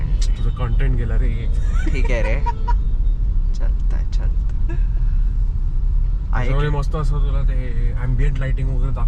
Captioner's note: laughs